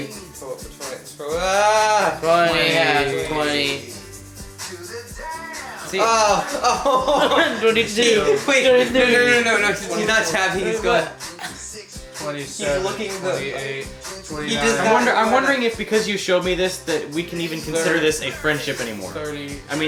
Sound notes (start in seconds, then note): 5.8 dabbing/laughing; 6.3 laughter; 12.3 monotone